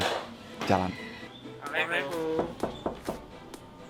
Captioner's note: parrot imitates human voice